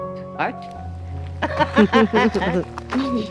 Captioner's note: laughs